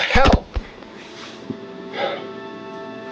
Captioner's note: dramatic music; thumping; tense music